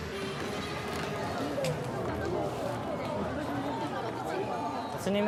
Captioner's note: crown chatter